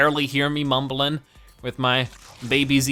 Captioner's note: static